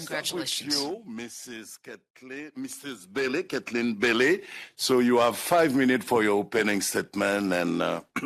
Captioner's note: speaking French